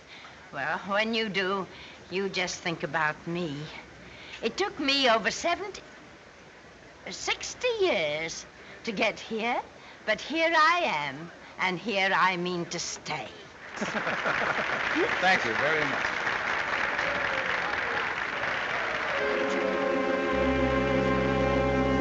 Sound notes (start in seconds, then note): 13.7 laughing; 19.2 dramatic music